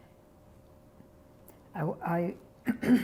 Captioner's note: clears throat